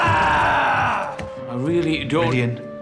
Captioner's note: growls